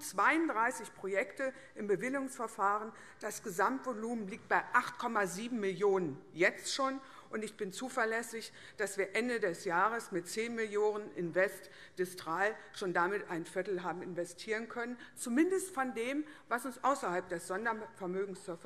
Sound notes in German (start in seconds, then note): none